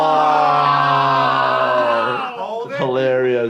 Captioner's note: jackass crew moan